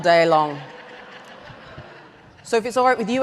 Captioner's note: audience laughs